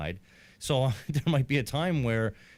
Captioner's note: chuckling